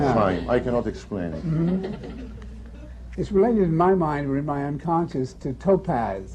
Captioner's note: laughter